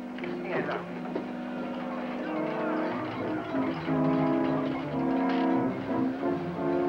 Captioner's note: men Yelling